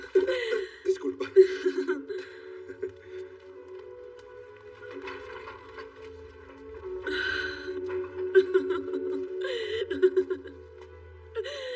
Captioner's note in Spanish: Ríe